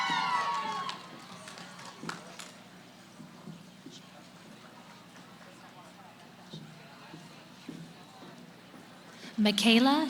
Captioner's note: cheering; background conversations